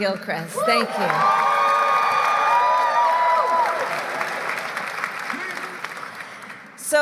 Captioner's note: applause